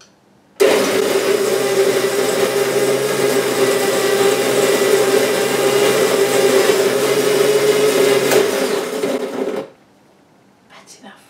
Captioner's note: coffee grinder noise